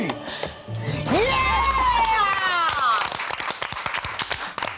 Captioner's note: all applauding